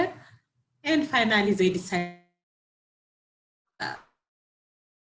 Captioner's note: audio drops